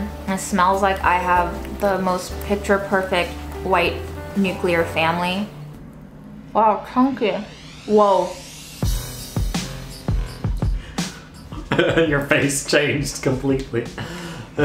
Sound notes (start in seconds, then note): 7.5 techno music; 8.8 laughing